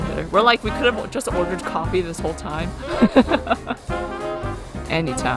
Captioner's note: laughs